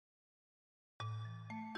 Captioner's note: no sound